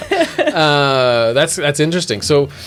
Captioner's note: laughing